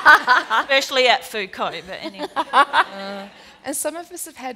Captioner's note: laughter